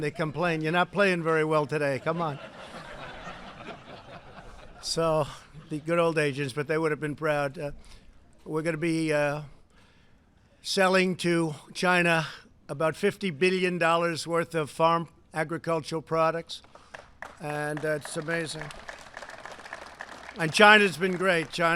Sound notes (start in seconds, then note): 1.8 laughter; 16.6 applause